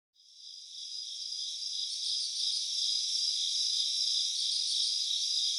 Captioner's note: crickets